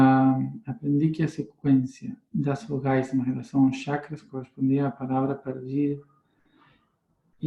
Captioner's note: reading in Portuguese